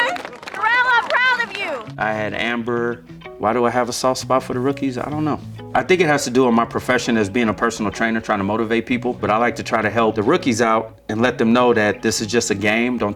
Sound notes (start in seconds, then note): 0.0 claps